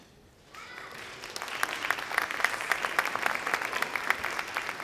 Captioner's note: audience applauds